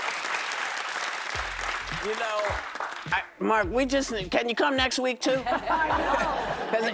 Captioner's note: applause